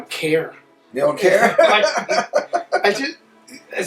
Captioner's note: laughs